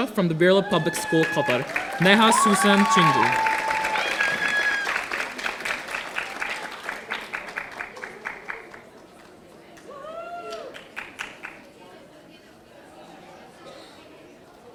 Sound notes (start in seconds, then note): 3.5 audience applauding